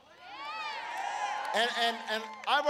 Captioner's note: applause